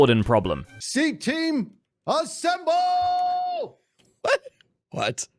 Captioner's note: laughs